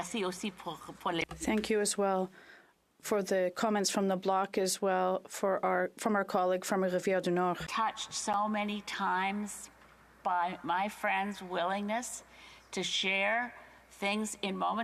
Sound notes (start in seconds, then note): 7.0 speaking French